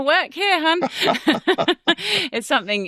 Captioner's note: both chuckling